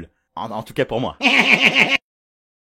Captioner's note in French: petit rire